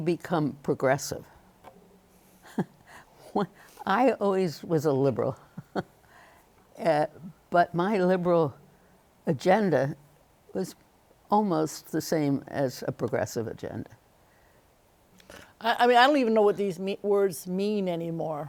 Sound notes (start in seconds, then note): 2.4 chuckles; 5.4 chuckles